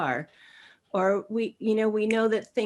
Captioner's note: snap